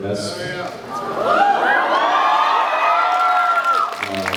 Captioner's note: cheers, applauds